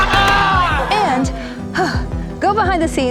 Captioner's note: players cheering; sighs